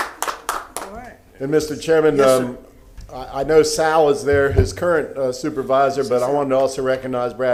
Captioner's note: applause